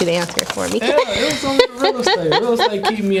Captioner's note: Mary laughing